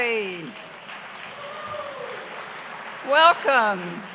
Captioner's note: clapping